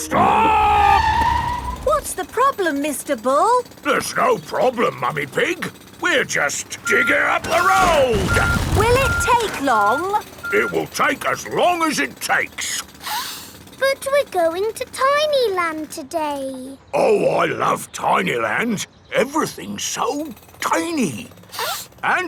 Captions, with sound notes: -Stop! -(TIRES SCREECHING) What's the problem, Mr. Bull? There's no problem, Mummy Pig. We're just digging up the road! Will it take long? It will take as long as it takes! (SNIFFS) But we're going to Tiny Land today. Oh, I love Tiny Land! Everything's so tiny. (SNIFFS)